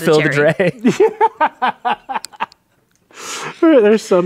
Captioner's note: laughing